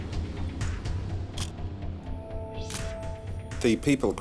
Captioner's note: camera shutter click